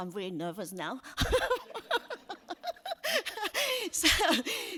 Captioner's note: laughs